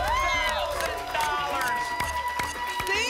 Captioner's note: applause and cheering